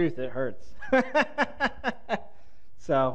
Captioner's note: panelist laughs